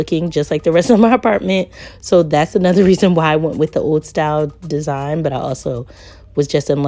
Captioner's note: laughs